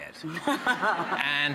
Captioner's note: audience laughing